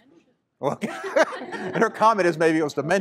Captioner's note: laughter